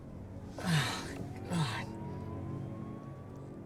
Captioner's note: moaning